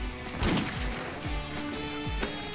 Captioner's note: Gun shot